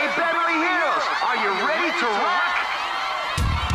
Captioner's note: cheering